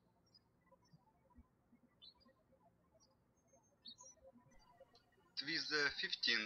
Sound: birds chirping

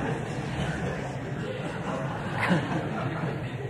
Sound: laughter

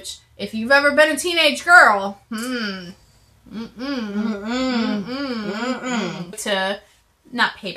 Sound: hmm-mm!

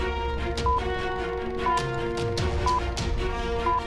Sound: beeping

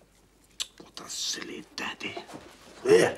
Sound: tuts

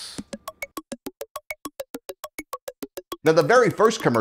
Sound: frenetic blips

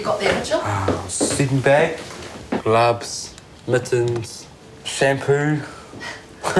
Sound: laughs

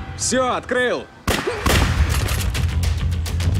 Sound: gunshots

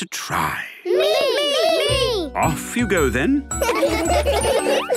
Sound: laughter

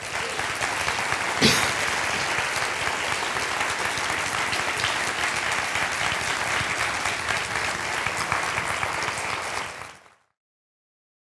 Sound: applause

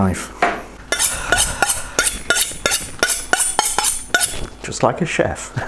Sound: knife sharpening sounds

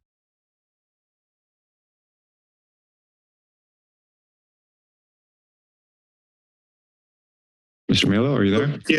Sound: silence

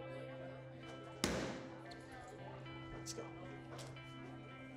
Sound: slams hand on surface

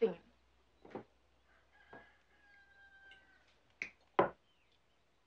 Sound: rooster crowing

